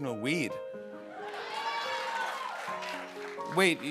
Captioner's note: cheering